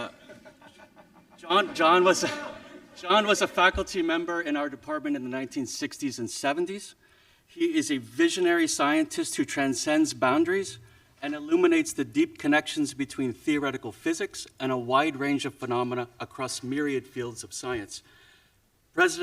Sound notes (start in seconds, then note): 3.1 audience chuckling